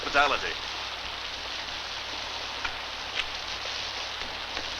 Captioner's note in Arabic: صوت المطر